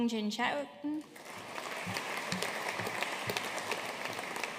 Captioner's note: audience applauding